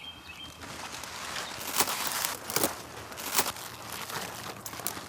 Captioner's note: cabbage crunching